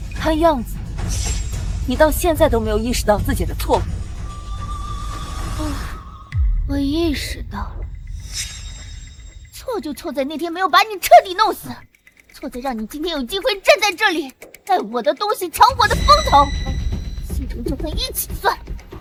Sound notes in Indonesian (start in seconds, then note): 4.0 Menghela napas